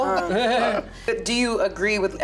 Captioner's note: laughs